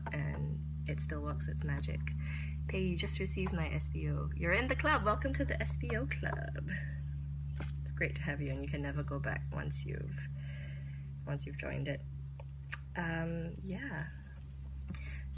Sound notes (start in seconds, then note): none